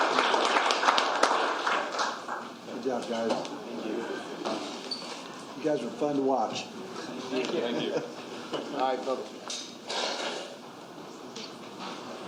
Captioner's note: applause